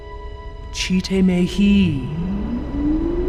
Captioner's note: voice speaking gibberish; whirring